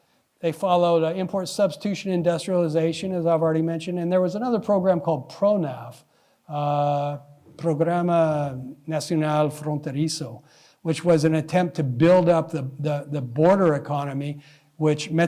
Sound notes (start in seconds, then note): 8.4 speaking spanish